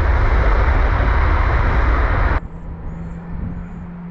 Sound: tires screeching

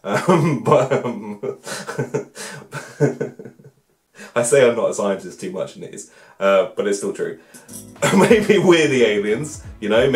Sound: laughs

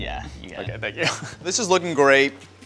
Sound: laughs

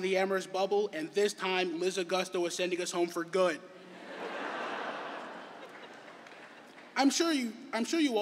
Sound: laughter

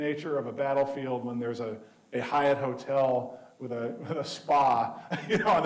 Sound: chuckling

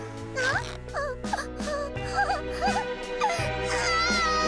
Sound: whimpering; crying

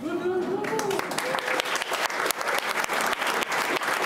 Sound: applauding

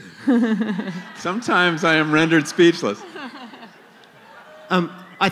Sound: laughter

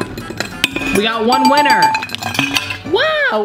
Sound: ding ding ding

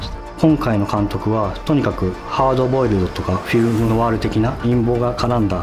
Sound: speaks Japanese

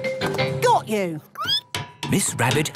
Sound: squeaking

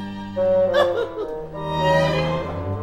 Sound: larry giggles

